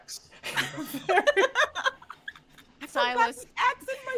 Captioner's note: all laughing